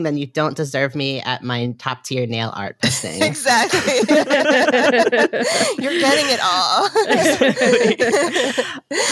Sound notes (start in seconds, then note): 3.4 laughing